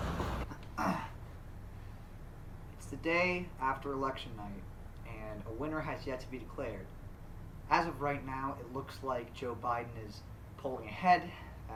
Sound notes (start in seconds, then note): 0.7 grunts